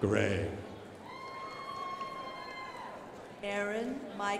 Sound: crowd applauding

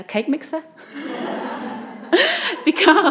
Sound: audience laughs

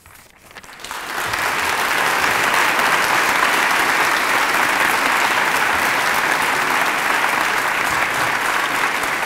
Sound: applause

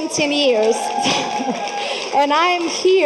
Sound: adience applauding

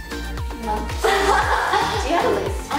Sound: laughs

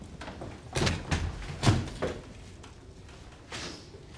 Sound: gurney clanking obnoxiously

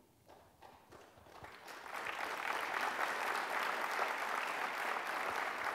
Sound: applause

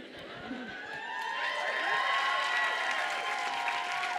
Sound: audience cheers

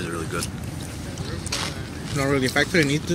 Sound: crunch

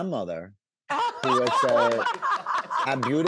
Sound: woman laughing hysterically

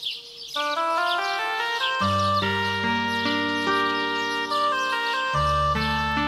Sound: birds chirping; somber reed music

